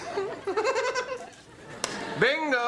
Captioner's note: giggling